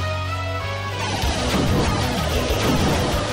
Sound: bombs

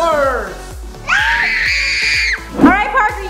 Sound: screaming

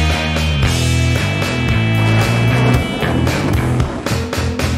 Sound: jet plane sound

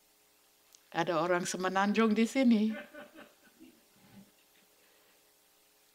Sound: speaking foreign language

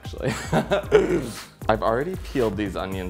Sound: laughs

